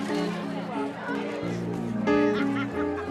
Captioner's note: laughs